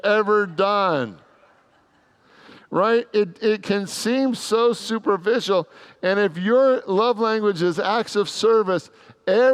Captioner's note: congregants laugh